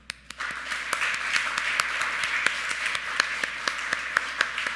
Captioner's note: audience clapping